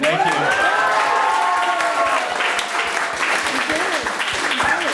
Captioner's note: audience applauds